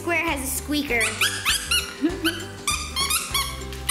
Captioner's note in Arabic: الصرير